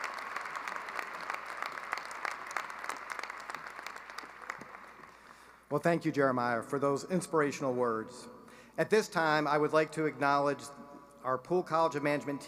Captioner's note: applause